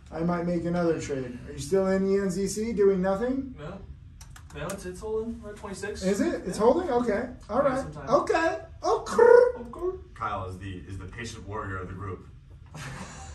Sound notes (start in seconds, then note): 9.3 making cooing sound